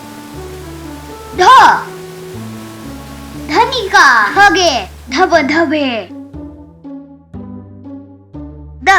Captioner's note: waterfalls